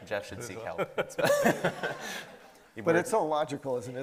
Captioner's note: everybody laughing